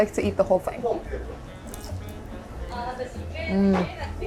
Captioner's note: jazz music; shishamo crunching